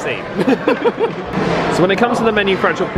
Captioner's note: laughing